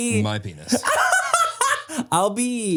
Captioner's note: Manny laughs